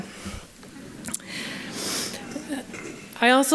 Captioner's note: laughter